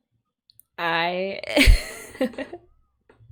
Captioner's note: laughs